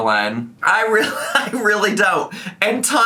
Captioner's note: laughs